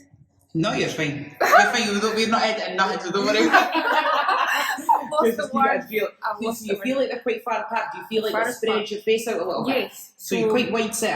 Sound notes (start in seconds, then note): 3.2 laughing; 3.3 more laughing